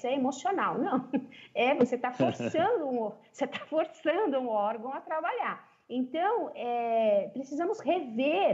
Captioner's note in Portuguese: risos